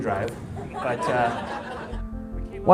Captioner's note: chuckling